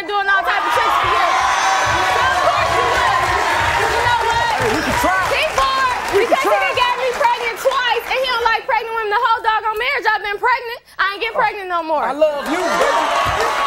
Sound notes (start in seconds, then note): 1.6 audience cheering